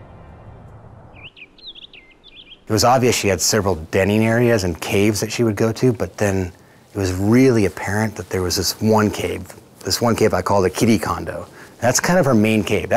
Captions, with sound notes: (birds chirping) - It was obvious she had several denning areas and caves that she would go to, but then it was really apparent that there was this one cave, this one cave I call the kitty condo, that's kind of her main cave.